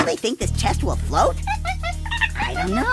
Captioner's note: monkey noises